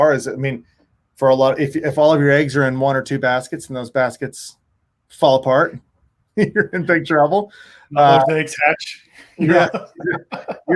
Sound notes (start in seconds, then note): 6.4 chuckles; 9.3 chuckling